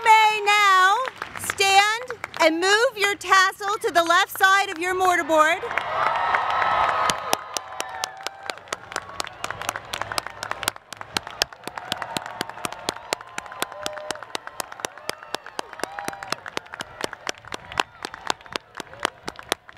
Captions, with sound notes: You may now stand and move your tassel to the left side of your mortarboard. [APPLAUSE]